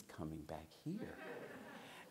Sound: laughter

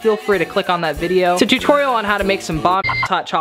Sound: beep

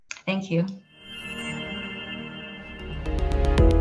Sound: sound effects playing

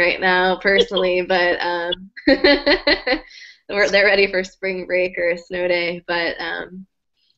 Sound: laugh; laugh

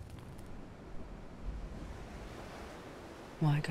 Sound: waves crashing

